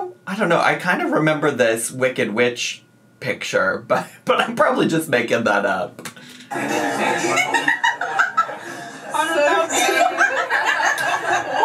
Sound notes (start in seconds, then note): 6.5 laughing